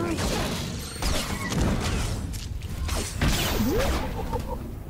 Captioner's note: gunfire